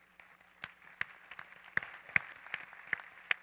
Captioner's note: applause